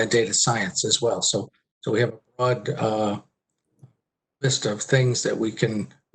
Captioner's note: murmurs